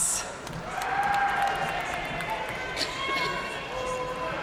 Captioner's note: audience cheering and applauding